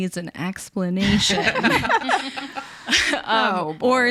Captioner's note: laugh